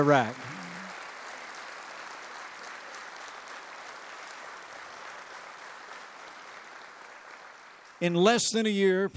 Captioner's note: applause